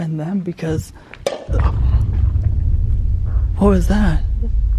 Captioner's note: scary sound